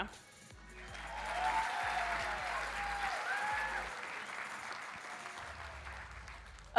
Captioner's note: audience applauding and cheering